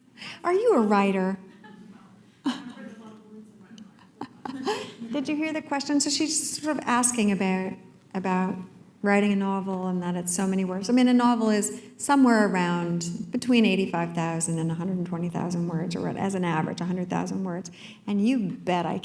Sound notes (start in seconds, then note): 4.0 chuckle